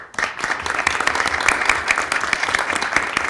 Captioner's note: applause